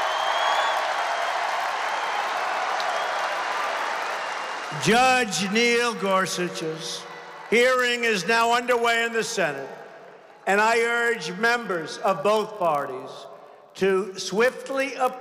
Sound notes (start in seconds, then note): 8.1 applause